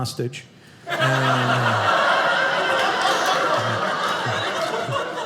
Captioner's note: audience laughing